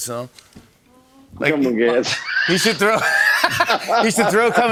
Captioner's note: laughter